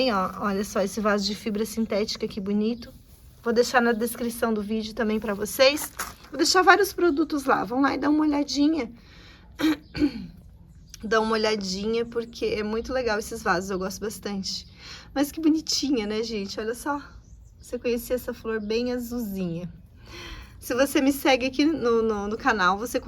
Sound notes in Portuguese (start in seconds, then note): 9.5 tosse; 9.6 limpando a garganta